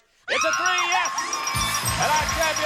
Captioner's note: theme music playing; exclaims